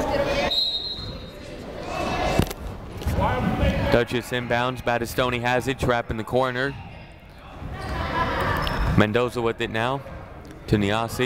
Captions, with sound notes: (whistle shrills) Dutchess inbounds, Badastoni has it, trap in the corner. Mendoza with it now, to Niasse.